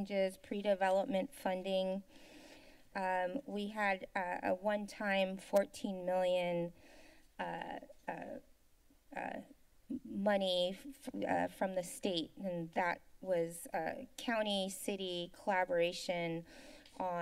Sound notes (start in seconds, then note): 2.1 inhales